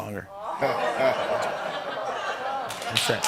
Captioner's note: laughter; applause